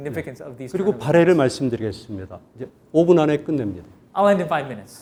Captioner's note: speaking in Korean